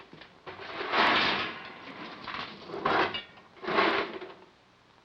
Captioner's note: coal clattering